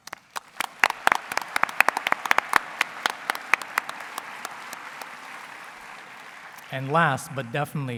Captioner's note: applause